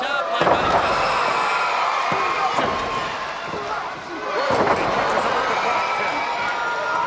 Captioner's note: presenter speaking faintly off mic; crowd cheering; body thudding